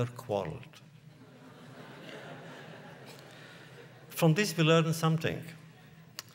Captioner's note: laughter